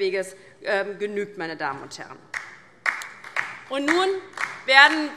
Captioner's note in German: Beifall DIE LINKE